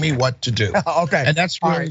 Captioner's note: laugh